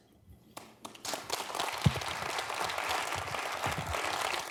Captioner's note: audience clapping